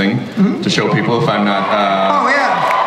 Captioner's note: audience cheers